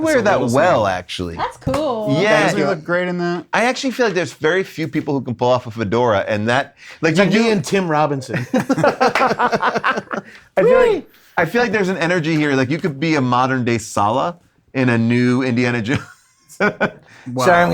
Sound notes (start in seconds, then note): 7.3 group laughing